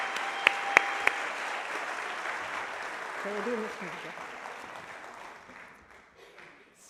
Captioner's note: applause